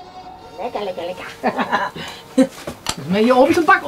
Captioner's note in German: Lachen